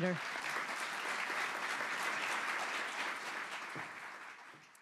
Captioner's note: audience applauds